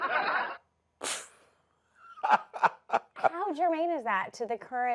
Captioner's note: laughs